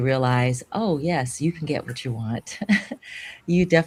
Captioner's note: chuckles